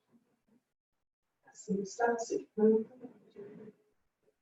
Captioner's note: chanting quietly